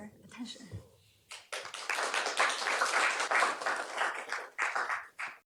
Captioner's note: applause